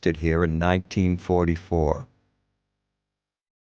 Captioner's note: non-english